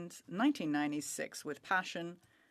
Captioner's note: speaking French